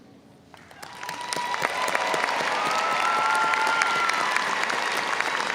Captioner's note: audience applauding